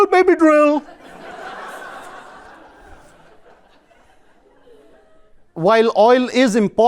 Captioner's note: laughter